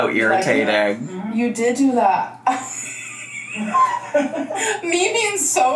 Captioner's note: laughs